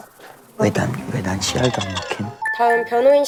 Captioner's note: groaning